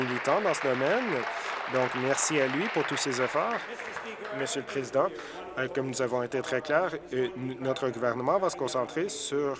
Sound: applause

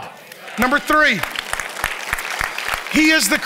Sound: congregation applauds

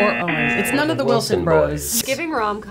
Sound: buzzers razzing

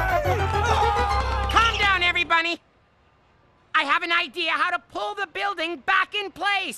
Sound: screaming

